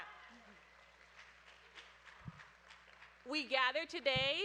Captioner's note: audience applauding